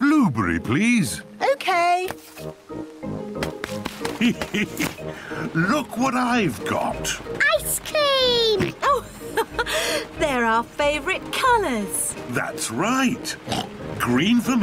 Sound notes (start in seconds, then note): 4.0 laughs; 8.4 laughs; 13.4 oinks